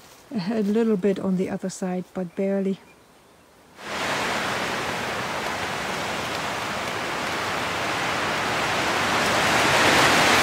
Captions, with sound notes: ... a little bit on the other side, but barely. [Strong wind sounds]